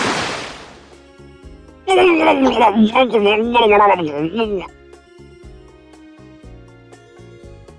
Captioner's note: bubble bubble